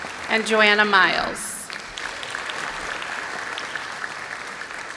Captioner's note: applause